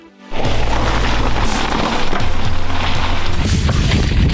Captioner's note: air whooshing